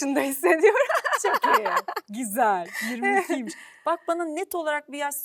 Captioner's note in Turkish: kahkaha